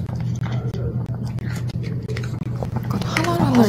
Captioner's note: crunch crunch